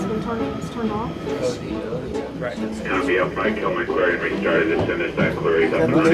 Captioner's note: radio and room chatter